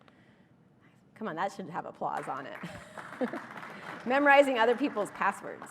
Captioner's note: applause